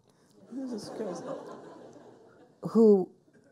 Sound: people laughing

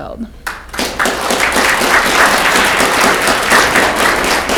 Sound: audience clapping

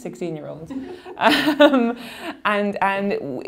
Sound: laughing

